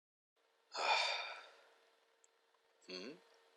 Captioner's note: sigh